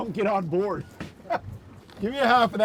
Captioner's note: laughs